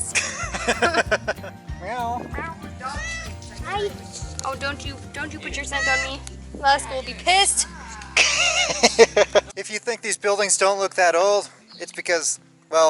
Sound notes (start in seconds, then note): 0.1 laughter; 2.7 cat meowing; 8.1 laughter